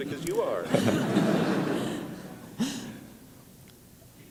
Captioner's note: laughter